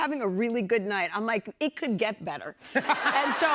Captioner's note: laughter